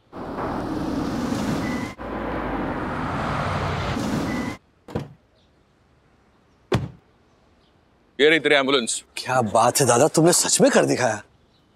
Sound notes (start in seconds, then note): 0.0 vehicles moving; 4.9 door opens